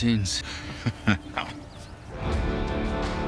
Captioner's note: laughs